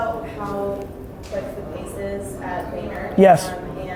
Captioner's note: murmurs